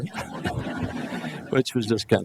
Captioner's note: laughing